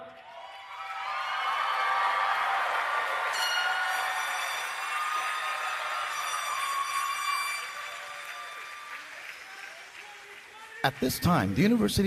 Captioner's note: cheering and Applause